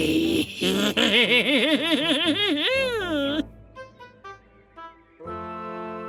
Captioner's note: maniacal cackling